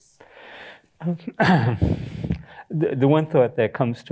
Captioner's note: clears throat, chuckles